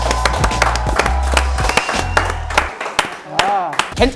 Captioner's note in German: Jubel, Applaus